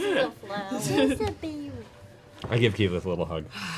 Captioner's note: kid voice